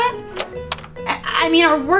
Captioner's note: door sound